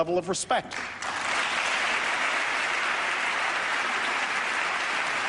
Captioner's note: applause